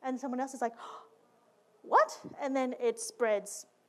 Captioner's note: gasp